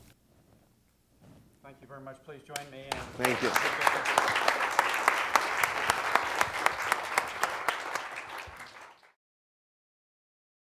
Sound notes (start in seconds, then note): 2.9 applause